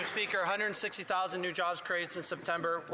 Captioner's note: some Applause